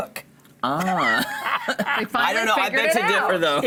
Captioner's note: laughing